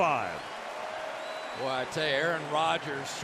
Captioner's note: cheering